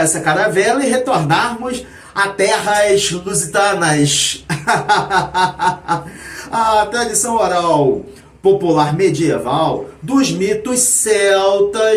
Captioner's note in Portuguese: risadas